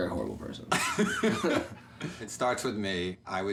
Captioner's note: laughs